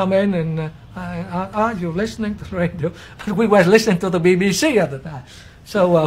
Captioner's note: cười khúc khích